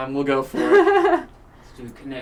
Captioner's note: laughs